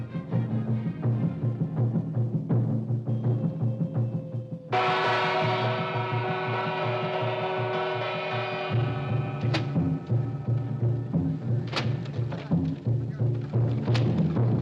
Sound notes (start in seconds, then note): 0.1 drum beating; 4.7 gong rings loudly; 9.3 drum beating; 9.3 whipping sound; 14.3 drum beating